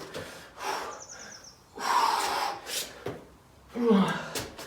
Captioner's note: exhales sharply; grunts